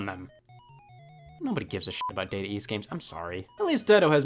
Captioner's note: beep